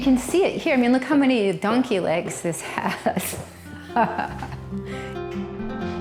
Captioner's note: laughs